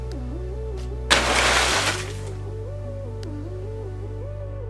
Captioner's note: crumbling crash and rustling